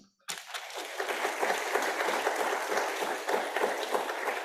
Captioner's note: audience applauding